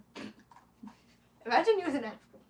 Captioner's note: snorts